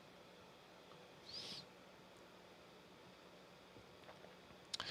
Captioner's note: sniffs